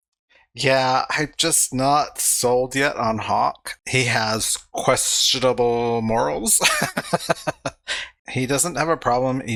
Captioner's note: laughing